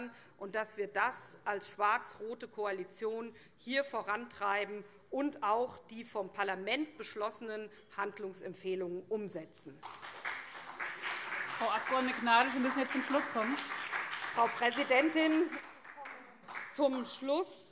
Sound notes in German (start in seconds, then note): 9.8 Beifall SPD und vereinzelt CDU